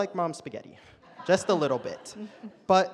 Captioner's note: audience laughs